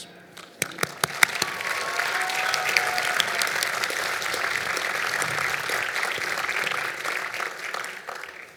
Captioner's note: applause